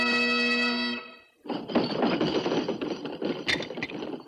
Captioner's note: pounding table